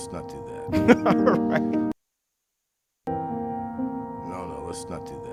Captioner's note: laughing